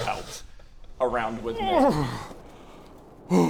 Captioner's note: hrrrrggggh